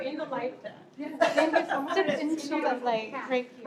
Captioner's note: laughter